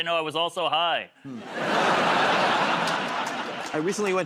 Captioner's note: laughter